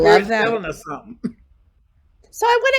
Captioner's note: chuckles